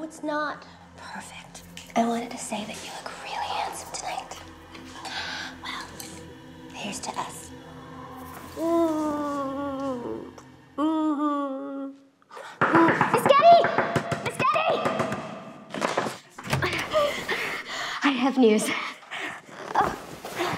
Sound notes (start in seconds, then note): 8.9 smooches; 12.6 knock on door; 16.9 panting